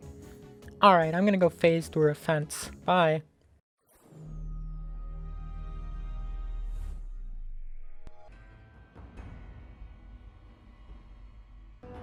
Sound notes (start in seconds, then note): 3.9 Xbox 360 startup noise